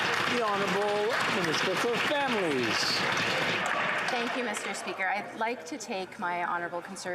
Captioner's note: some Applause